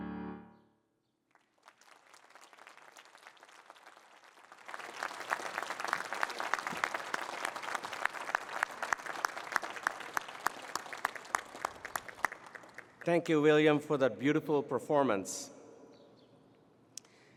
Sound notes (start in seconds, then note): 1.9 applause